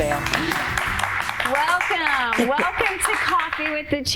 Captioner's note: applause